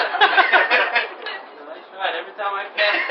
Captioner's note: laughter